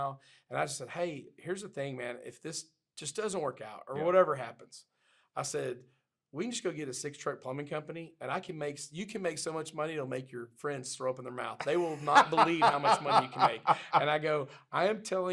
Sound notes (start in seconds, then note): 13.3 laughing